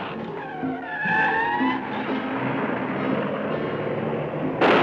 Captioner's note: tires squealing